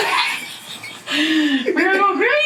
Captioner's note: toy laughing; laughing